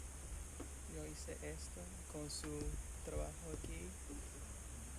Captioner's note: voiceover